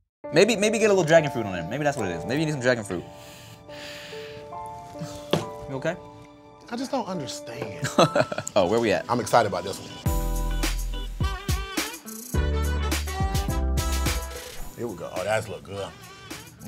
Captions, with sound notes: Maybe get a little dragon fruit on there. Maybe that's what it is. Maybe it need some dragon fruit. You okay? - I just don't understand. - (laughs) Where we at? - I'm excited about this one. (upbeat music) - Here we go, oh that looks good, mm.